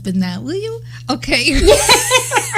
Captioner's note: laughing